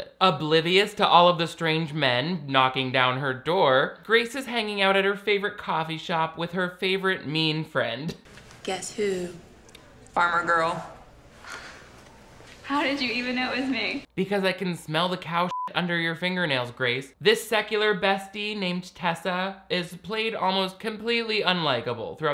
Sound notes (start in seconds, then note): 15.5 beep